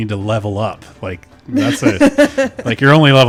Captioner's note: laughs